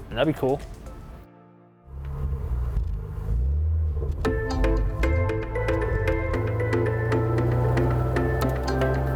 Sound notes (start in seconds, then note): 1.8 car engine rumbling; 4.2 bright upbeat music; 6.6 car revving